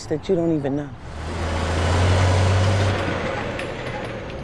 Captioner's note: vehicles rumbling